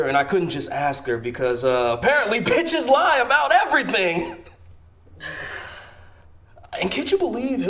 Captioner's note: laughs